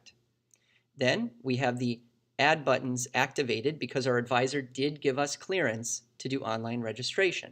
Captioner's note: click